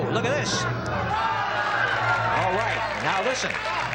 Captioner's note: applause and cheering